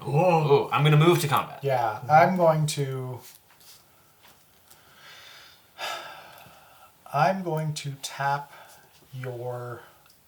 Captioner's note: sighs